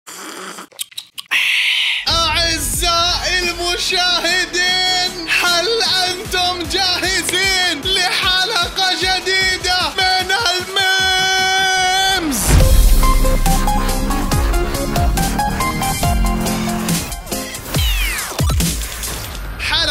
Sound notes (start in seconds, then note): 0.0 sips; 1.2 gasps